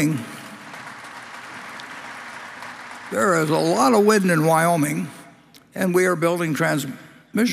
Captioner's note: Applause; 掌聲